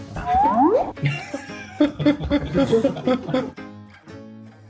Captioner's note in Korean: 웃음